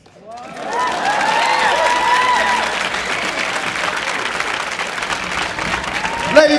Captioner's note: audience applauding; audience cheering